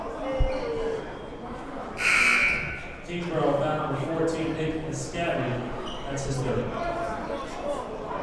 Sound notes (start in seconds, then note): 2.0 buzzer blares